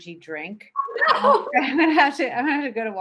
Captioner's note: laughing